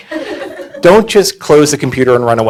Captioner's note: audience laughing